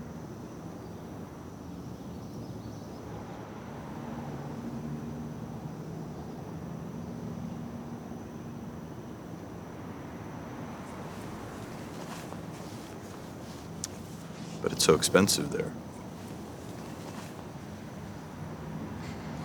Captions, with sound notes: (background traffic) (background traffic continues) - But it's so expensive there.